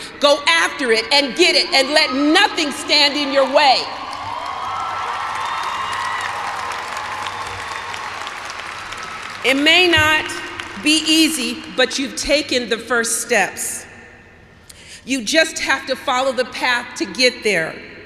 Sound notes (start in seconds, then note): 2.9 cheers and applause